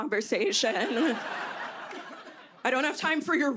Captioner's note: laughter